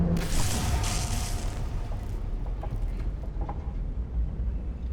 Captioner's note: driving sounds with spooky ambience; electrical noises